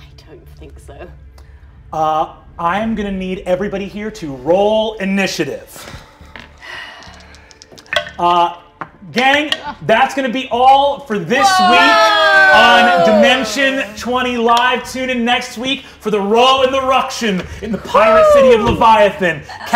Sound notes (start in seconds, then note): 6.6 sighs; 7.0 dice clatter